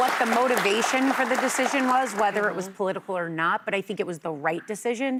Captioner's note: applause